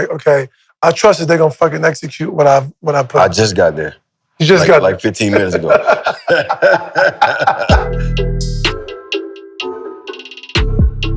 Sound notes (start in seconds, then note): 5.3 Maverick laughs; 5.3 laughs